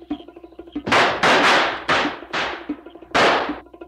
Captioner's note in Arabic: إطلاق نار